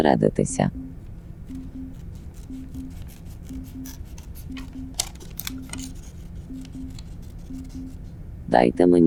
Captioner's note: cutting sounds